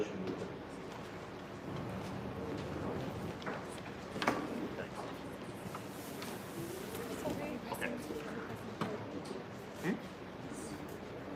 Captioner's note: background chatter